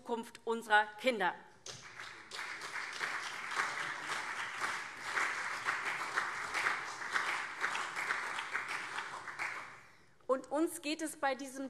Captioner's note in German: Beifall CDU und SPD